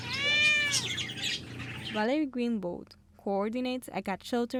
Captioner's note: cat meows